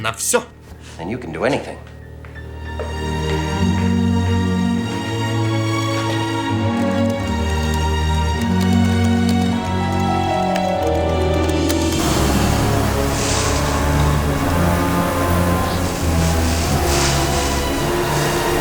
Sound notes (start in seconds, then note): 5.4 door closes; 6.2 typing